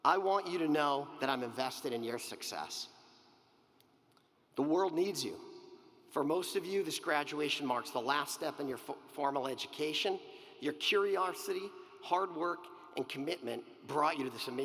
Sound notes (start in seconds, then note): none